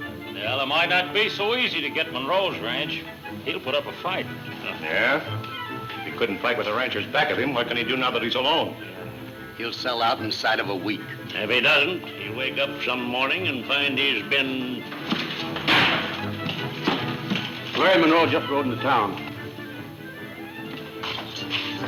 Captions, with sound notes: - Well it might not be so easy to get Munro's ranch. - He'll put up a fight. - Yeah? He couldn't fight with the ranchers back of him. What can he do now that he's alone? - He'll sell out inside of a week. - If he doesn't he'll wake up some morning and find out he's been- (door slams) - Larry Munro just rode into town. (tense music)